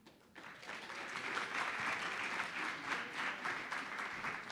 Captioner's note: audience applauding